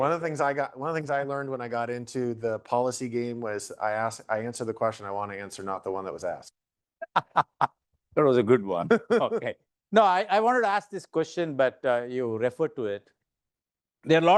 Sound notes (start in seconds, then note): 7.0 laughing; 8.8 laughing